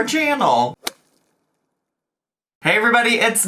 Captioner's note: logo thuds